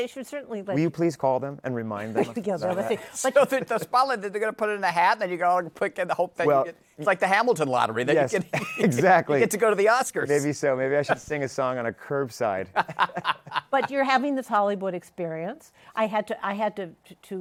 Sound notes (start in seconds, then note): 12.8 laughs